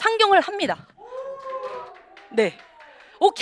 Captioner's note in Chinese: 欢呼声